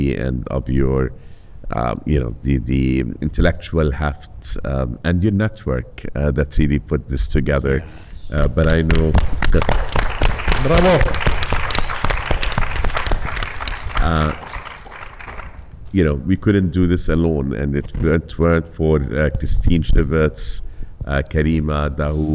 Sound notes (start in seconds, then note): 8.5 all clapping